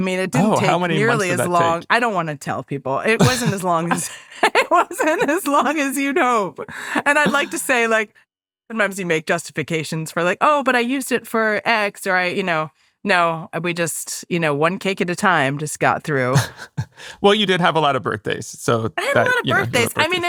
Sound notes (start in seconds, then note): 7.0 laughs